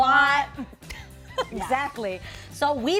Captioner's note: laughing